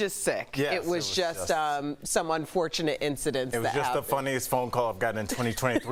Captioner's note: laughter